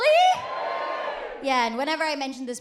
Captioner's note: audience cheers